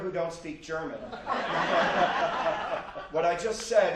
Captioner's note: audience laughs